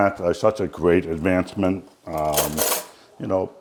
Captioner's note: utensils clanking